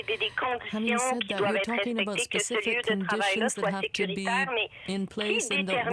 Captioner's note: speaking French